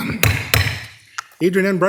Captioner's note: gavel thumping